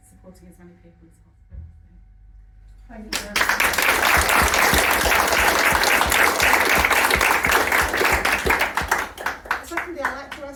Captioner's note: applause